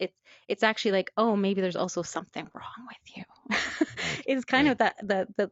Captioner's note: laughs